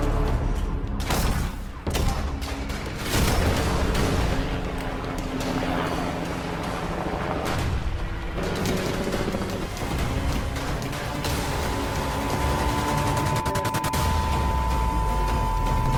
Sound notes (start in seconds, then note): 0.2 tense music; 3.6 power booming; 6.3 helicopter blades whirring